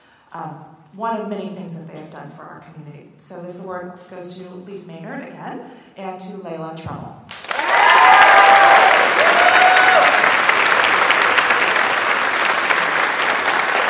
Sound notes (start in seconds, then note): 7.3 audience applauds